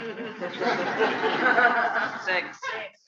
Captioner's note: laughter